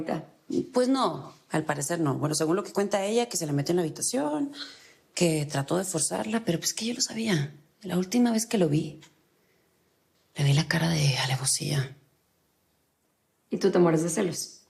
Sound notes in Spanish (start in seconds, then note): none